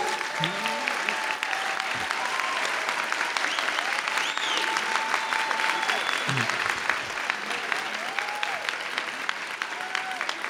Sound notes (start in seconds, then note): 0.1 audience clapping; 2.8 audience cheering loudly